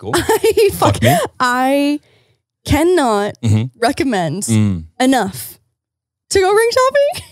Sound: laughing

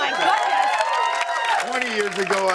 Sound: cheers and applause

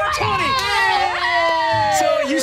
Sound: cheering

